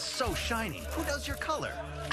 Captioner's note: scoff